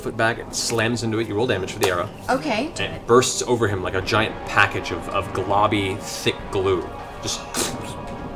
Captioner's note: pfft